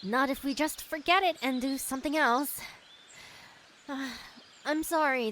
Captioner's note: sighs